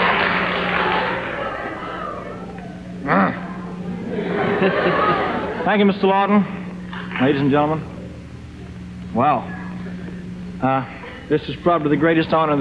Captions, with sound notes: (clears throat) (audience laughs) - Thank you, Mr. Laughton. Ladies and gentlemen. Wow. Ah, this is probably the greatest honor